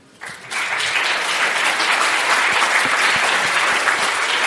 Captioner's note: applause